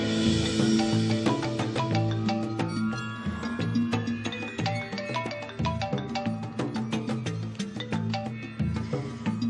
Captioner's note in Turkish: Telefon çalması